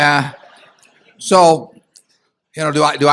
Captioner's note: laughter